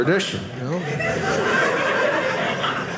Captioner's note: audience laughing